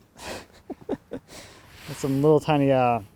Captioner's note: laughing